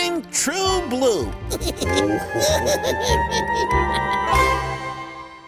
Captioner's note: Jay Jay and Big Jake Laughing